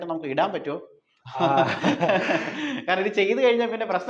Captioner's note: laughing